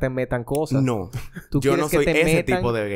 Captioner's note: laughs